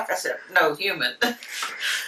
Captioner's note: laughing